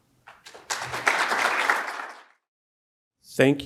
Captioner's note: audience applauds